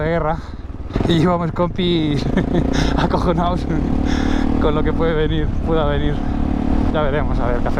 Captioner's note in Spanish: risas